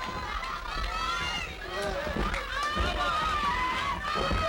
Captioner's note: crowd yelling